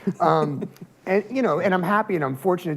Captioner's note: laughs